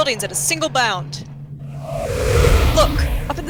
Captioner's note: loud rush of air